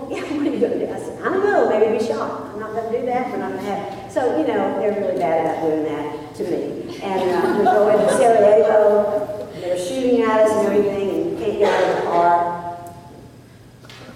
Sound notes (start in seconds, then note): 7.0 laughter